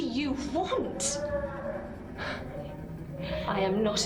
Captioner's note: distant crying